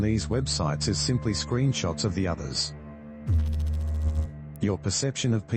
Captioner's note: electrical noise